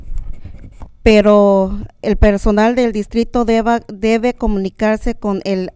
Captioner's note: speaking in a foreign language